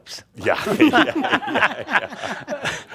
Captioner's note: they laugh